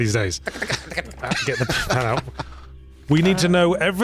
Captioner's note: laughs